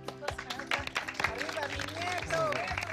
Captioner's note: applause